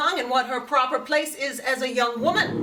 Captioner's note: audience gasps